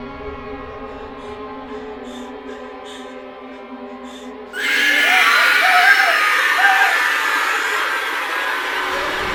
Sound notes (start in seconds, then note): 2.5 crickets chirping; 2.5 ominous music